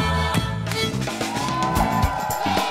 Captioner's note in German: Dynamische Musik; Jubel